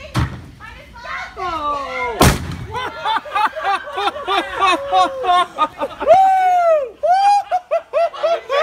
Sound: worlds most obnoxious laugh

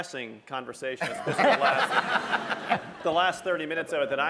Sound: laughter

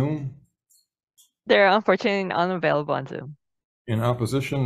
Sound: woman's Voice

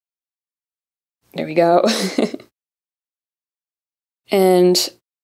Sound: chuckles

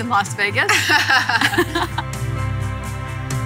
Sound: laughing; upbeat music

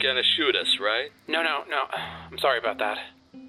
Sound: sighs

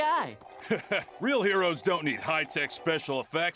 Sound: chuckles

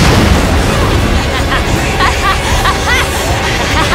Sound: blasting; laughing maniacally

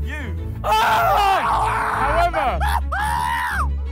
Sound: screaming

